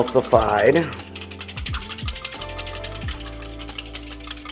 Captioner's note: whisking